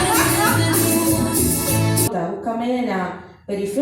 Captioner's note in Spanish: Risas y conversaciones de fondo